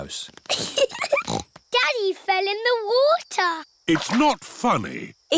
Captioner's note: giggling